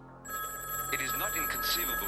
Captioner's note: phone ringing